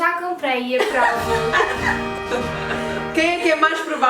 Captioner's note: laughs